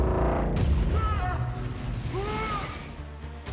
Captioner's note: screaming